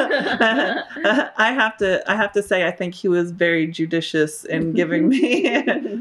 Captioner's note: laughter